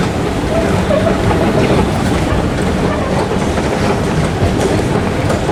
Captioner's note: sounds of escalator moving